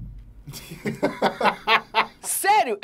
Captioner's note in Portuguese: risadas